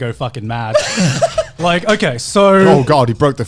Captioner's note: laughs